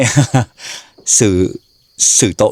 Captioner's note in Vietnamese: tiếng cười; khịt mũi